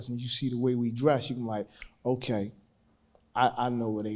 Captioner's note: panelist snaps fingers